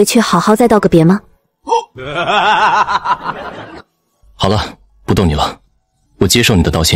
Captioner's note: bursts out laughing